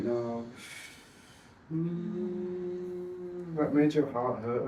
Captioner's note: humming